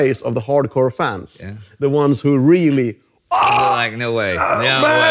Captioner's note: screams